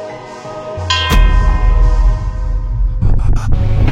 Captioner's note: ding; upbeat music